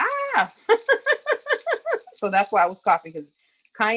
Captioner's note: laughs